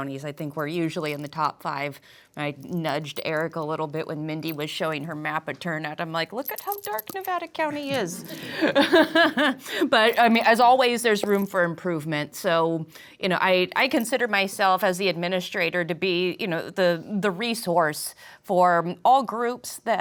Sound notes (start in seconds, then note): 7.7 laughs